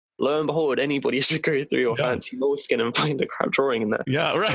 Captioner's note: giggle